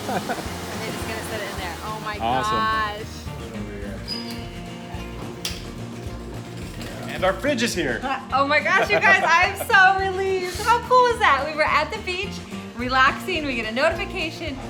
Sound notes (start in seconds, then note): 4.0 sounds of garage door opening